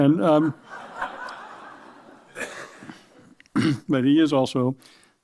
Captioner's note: laughter